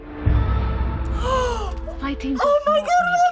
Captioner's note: gasps